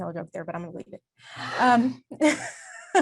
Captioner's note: laughs